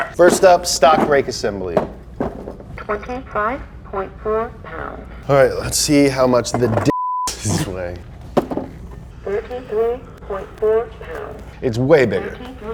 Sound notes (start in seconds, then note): 3.1 robotic Voice; 6.9 beep; 9.2 robotic Voice; 12.6 robotic Voice